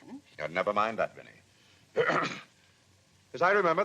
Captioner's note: clears throat